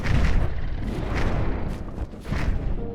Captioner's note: dragons growl